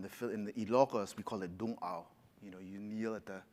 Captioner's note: speaks Filipino